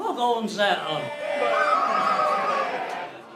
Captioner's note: crowd cheers; whistles